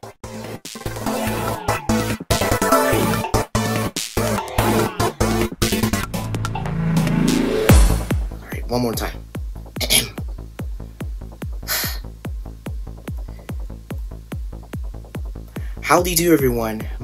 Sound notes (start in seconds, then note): 9.8 clears throat; 11.6 exhales deeply